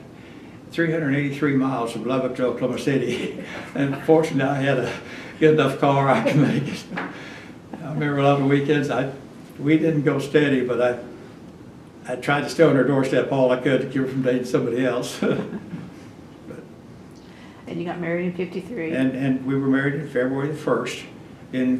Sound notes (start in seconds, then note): 5.4 laughs